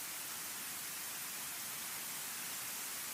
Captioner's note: none